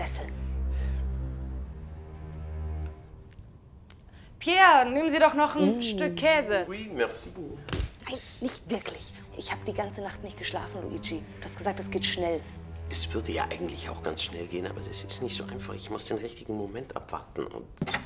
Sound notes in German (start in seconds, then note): 4.3 extra laut